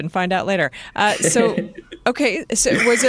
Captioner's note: laughter